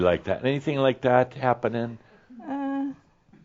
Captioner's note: she chuckles